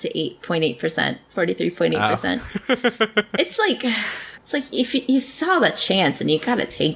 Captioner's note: laughs